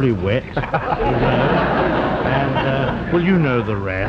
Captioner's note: audience laughs